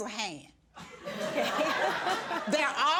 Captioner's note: judge faith laughs